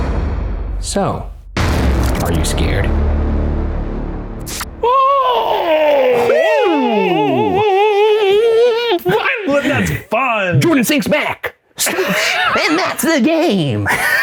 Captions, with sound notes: So, are you scared? (yelling) - Was that fun! - 26 back, swoosh, and that's the game!